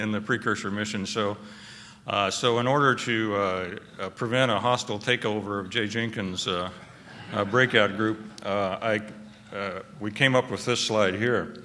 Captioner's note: laughter